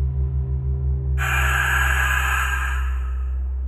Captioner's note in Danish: Mærkelig radio lyd